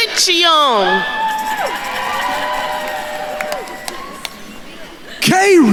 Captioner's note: attendees cheering and applauding